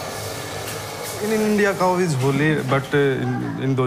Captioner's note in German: Englisch-Deutsch-Mix